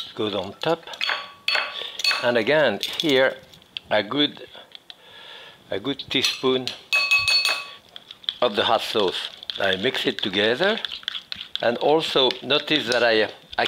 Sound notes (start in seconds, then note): 6.9 spoon clinking against glass